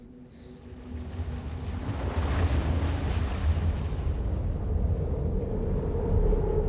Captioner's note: water splashing; wind whistling